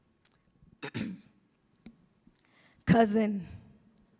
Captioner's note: clears throat